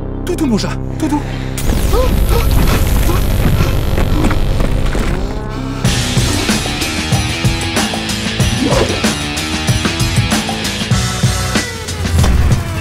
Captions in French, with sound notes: Tout doux mon chat, tout doux ! *halètements de panique* *musique d'action*